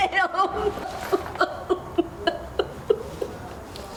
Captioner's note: crying